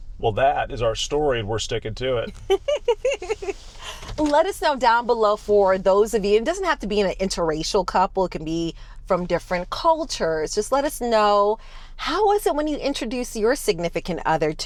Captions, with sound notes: Well, that is our story and we're sticking to it. (laughing) Let us know down below for those of you, it doesn't have to be an interracial couple. It can be from different cultures. Just let us know, how was it when you introduced your significant other